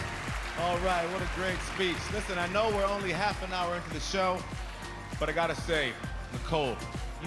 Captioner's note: cheers and applause